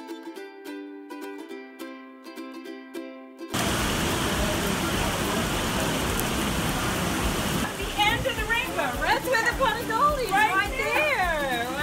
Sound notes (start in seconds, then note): 3.5 heavy rain